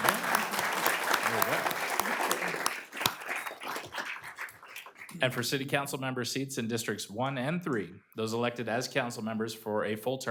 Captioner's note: applause